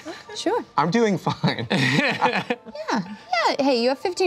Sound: laughs

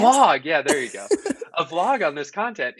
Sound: laughing

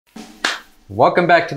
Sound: hands clapping

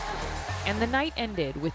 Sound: applause; cheering

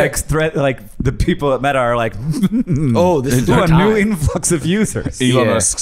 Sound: evil giggling

